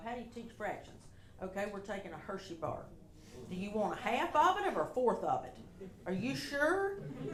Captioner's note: audience laughter